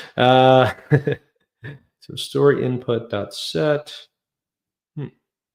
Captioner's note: chuckles